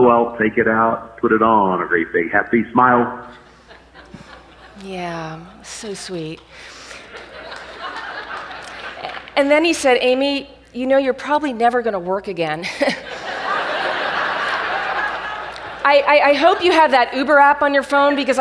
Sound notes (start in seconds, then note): 3.4 audience laughs; 6.9 audience laughs; 12.6 laughs; 12.6 audience laughs